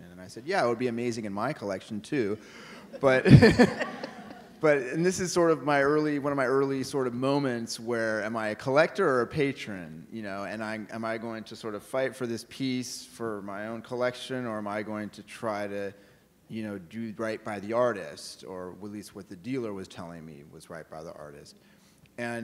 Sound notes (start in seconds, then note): 2.7 audience laughing